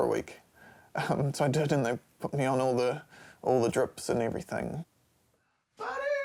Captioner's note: chuckles